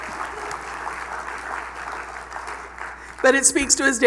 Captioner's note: applause